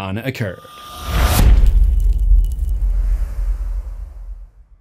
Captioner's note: impact